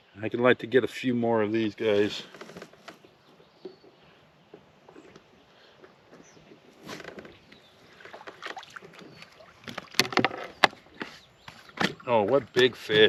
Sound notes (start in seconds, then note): 5.0 opening bucket lid; 11.6 closing bucket lid